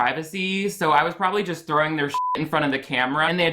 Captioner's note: beep